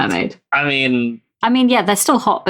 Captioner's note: laughs